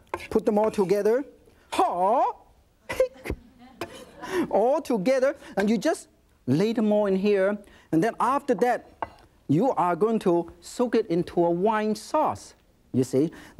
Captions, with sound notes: Put them all together. (shouts lightly) Altogether and you just lay them all in here, and then after that, you are going to soak it into a wine sauce, you see?